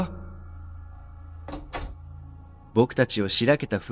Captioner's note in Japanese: 扉を開ける音：カチャ